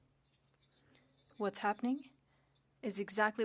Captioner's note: speaking French